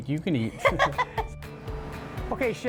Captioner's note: laughing